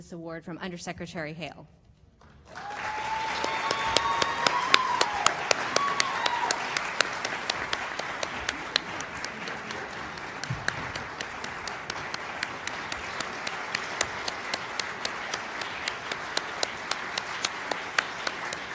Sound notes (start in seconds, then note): 2.7 applause